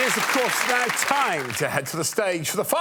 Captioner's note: applause